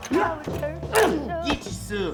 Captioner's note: grunting